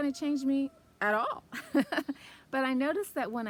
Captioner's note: laughs